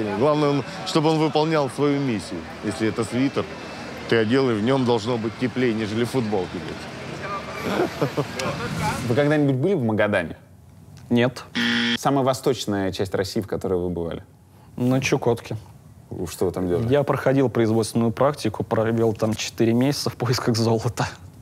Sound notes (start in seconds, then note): 7.5 laughs; 11.5 buzzer sound